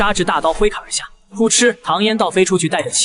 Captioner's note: thud